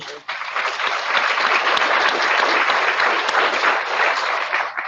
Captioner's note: audience applauding